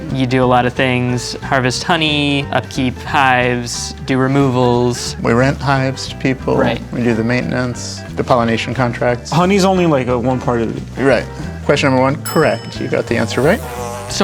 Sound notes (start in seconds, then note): 12.2 bell dings; 13.3 bee buzzing